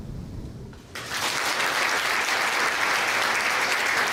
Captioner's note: applause